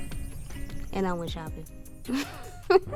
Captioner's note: laughs